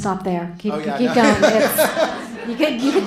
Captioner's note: laughter